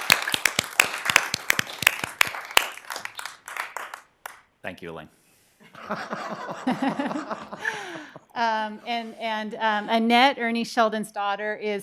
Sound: applause

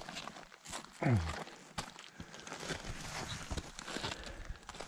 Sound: footsteps crunching

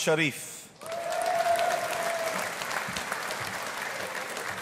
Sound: audience applauding

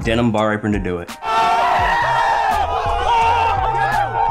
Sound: screaming

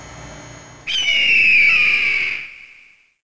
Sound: eagle screeches

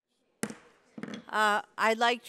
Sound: gavel banging

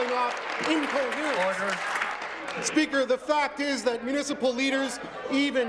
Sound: applause

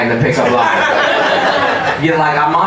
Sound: audience laughing

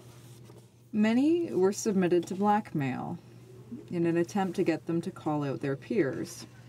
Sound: speaking French

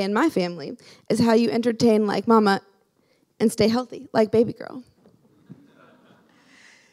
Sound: laughing

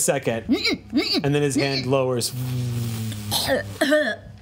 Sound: buzzes

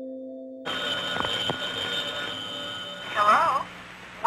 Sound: phone ringing

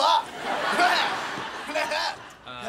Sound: laughing

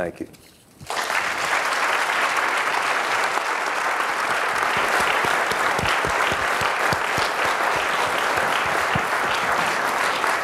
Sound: applause

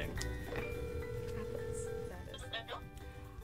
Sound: phone ringing

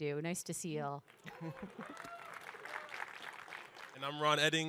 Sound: audience applaud, cheer

